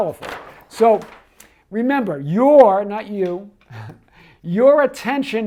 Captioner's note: chuckles